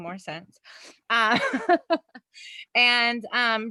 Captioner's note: laughs